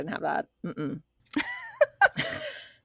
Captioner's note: both Laugh